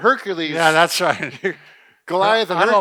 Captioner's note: laughs